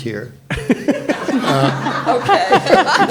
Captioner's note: all laughing